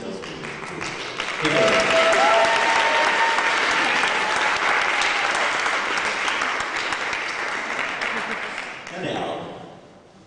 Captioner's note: applause